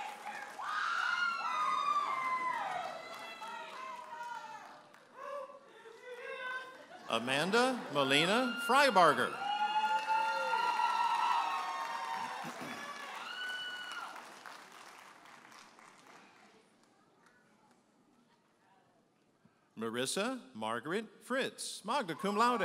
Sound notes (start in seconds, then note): 6.7 audience laughing; 9.7 audience applauding and cheering